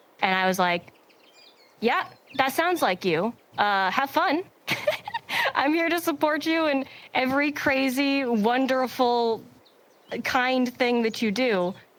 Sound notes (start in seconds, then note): 4.6 giggles